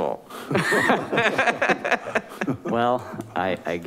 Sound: laughing

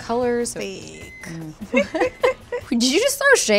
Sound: laughs

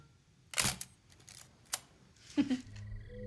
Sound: chuckles; ominous music

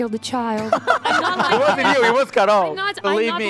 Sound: laughs

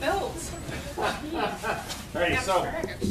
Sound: laughter

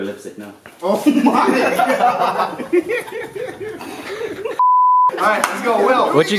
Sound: laughter

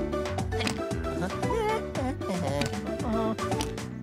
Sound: humming

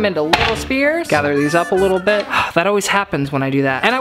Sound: apple slams

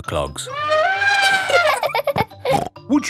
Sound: trumpeting; laughing

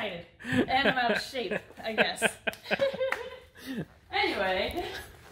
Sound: group laughs

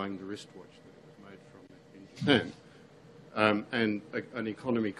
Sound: audio quiets

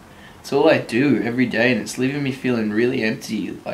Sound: none

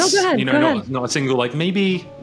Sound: none

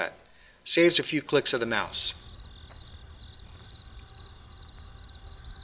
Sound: pause

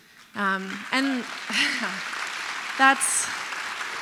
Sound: applause

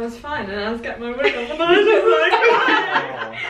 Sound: laughter; mocks crying

